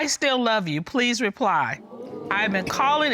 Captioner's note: reading